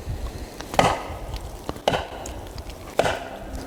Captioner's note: hitting tree